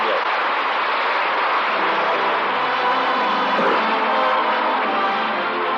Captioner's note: applause